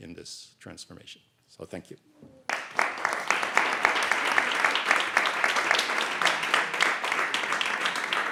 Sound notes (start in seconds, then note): 2.4 audience applauding